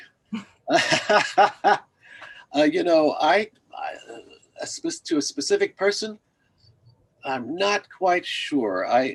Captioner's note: laughs